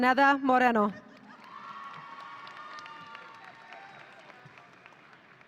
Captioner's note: audience cheering